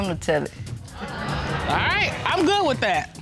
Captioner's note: audience laughing